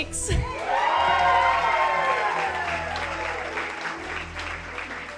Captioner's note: audience cheering